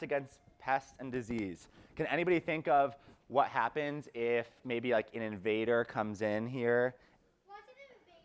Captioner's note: child's voice